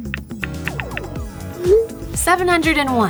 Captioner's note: phone clicking and chiming